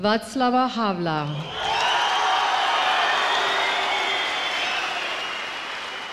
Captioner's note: crowd cheering